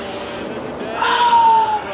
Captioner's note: sighs